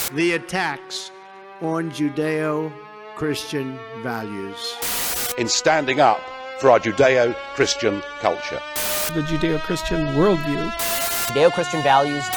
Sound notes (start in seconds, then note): 1.0 ominous rising synth; 4.8 Static; 4.8 ominous rising synth; 8.7 Static; 8.8 ominous rising synth; 10.6 Static; 10.8 ominous rising synth